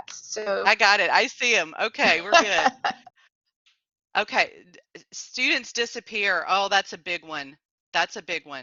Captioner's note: laughter